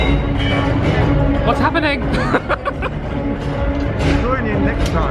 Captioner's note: laughs